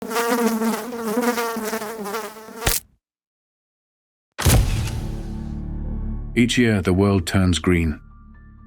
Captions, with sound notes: (fly buzzing) (fly splatting) (mysterious music) Each year, the world turns green.